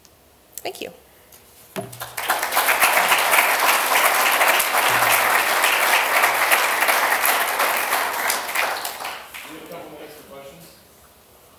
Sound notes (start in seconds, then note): 1.8 applause